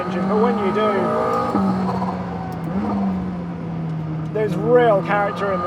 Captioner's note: engine revving